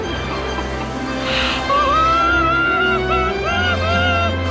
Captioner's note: screaming